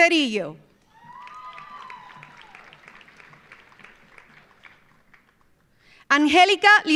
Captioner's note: audience cheering; audience applauding